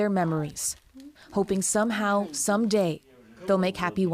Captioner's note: speaking alternate language